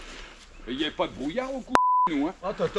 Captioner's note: beep